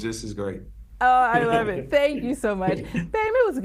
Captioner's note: laughs